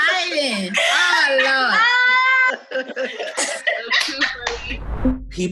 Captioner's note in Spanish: Risas